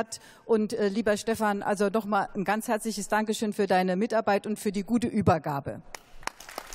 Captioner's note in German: Beifall